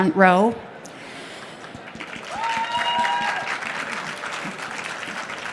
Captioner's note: applause